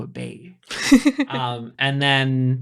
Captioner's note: laughing